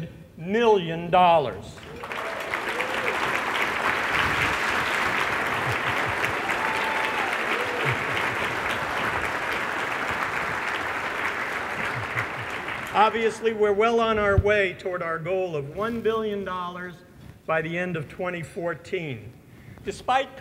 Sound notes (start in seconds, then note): 5.9 applause